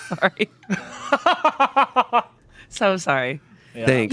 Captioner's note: laughing